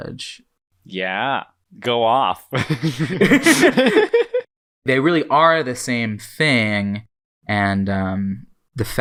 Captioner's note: both laugh